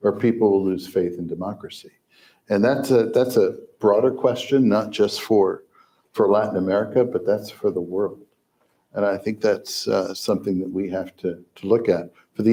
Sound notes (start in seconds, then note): none